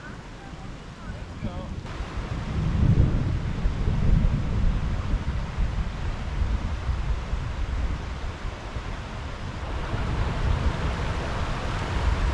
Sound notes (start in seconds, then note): 1.7 thunder Rumbling more intensely